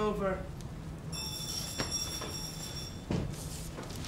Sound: bell rings

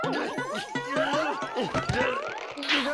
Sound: thud

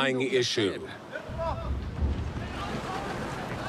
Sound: sailors shouting

